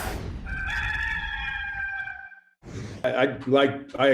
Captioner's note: rooster crowing